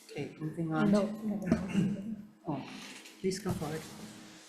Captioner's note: faintly speaking